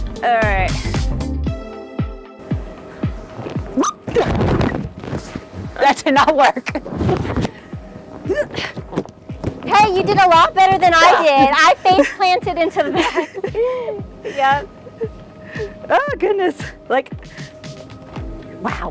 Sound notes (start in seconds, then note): 1.4 thuds; 1.4 upbeat melody; 8.5 grunts; 12.7 both giggle